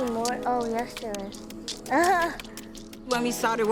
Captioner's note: laughs